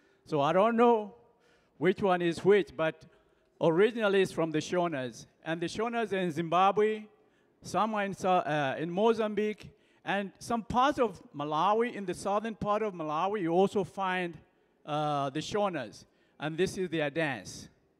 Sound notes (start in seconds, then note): none